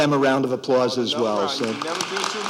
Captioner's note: applause